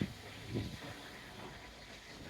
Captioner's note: wind blowing